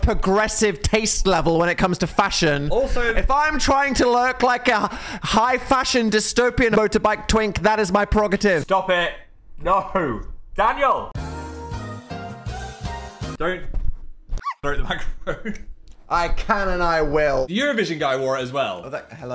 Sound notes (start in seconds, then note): 11.2 whimsical music; 14.6 dog barking; 15.1 chuckles